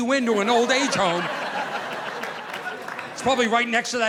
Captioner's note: audience laughing